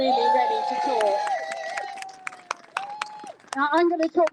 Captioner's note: crowd Cheers